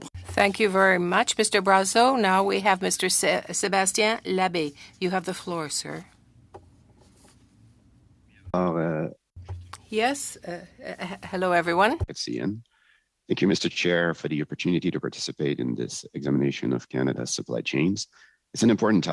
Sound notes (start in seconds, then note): 6.5 speaking French